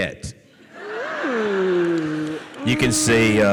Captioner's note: audience laughs